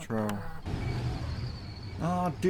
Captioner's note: wind